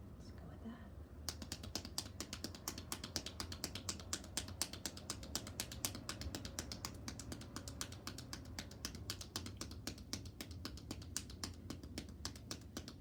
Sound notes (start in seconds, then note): 1.5 hands tapping